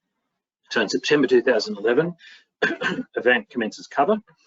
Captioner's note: coughs